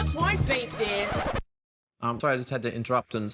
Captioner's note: record scratches